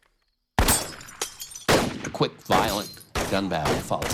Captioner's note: gunshots